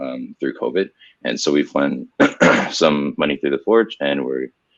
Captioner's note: clears throat